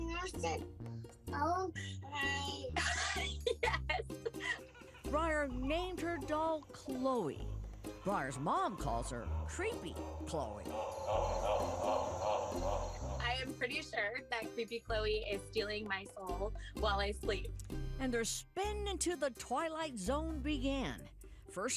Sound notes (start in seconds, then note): 2.6 laughs; 10.6 doll wickedly laughs